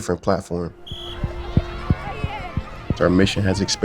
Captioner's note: whistle blowing